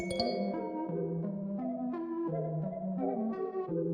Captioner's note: calendar notification chime